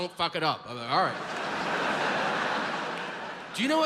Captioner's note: audience laughs